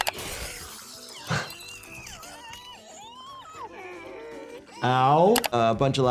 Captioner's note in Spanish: persona gritando